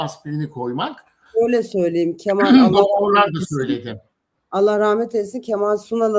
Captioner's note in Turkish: boğazını temizler